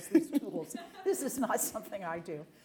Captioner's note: laughter